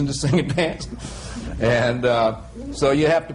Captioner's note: he laughs